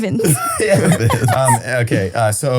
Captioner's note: laughs